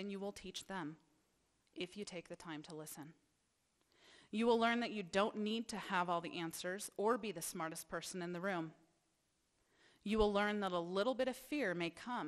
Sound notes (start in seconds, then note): none